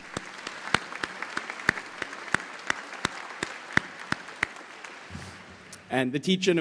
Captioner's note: applause